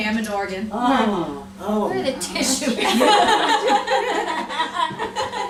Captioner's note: laughter